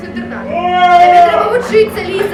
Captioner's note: screams